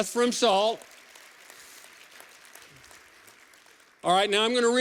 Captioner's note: applause